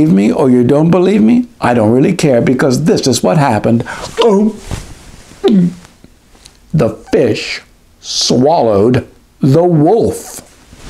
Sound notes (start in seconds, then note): 4.1 swallow; 5.4 gulp